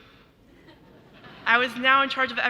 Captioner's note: audience laughing